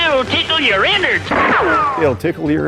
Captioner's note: gunshot